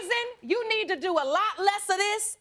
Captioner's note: none